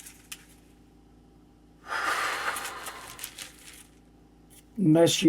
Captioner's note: papers rustling; sighing